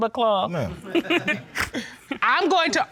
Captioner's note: all laugh